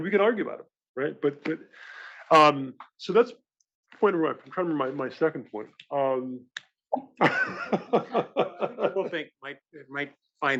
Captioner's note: laugh